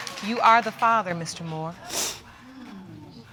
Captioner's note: sniffling